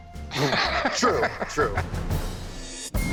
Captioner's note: Rick laughs